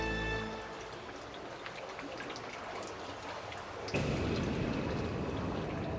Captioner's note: water burbling